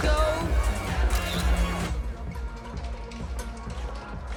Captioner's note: camera clicks